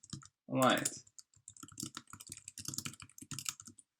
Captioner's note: typing